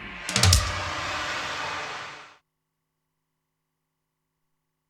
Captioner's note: eerie whooshing